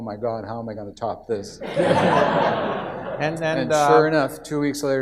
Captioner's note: audience laughs